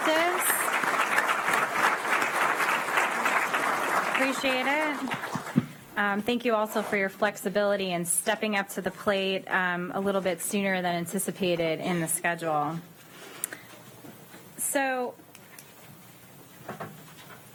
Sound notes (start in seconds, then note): 4.8 applause